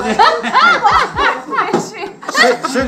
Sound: laughter

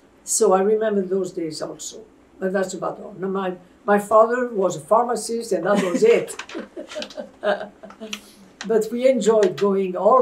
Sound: laughter

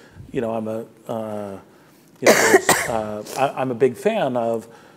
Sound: coughing drowns out speaker

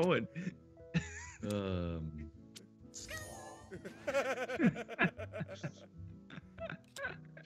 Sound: laugh

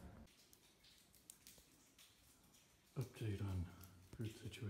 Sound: dripping

